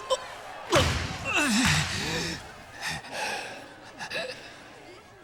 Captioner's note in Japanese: うめき声